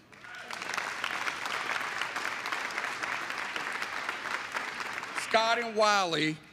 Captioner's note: applause